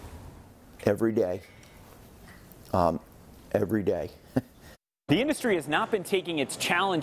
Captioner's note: chuckle